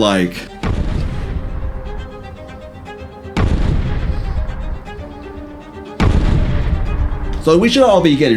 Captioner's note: crashing booms getting closer